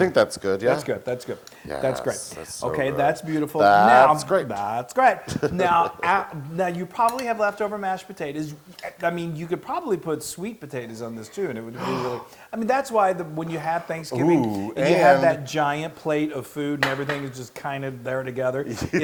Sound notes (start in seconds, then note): 5.2 laugh